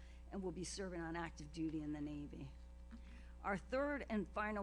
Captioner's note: none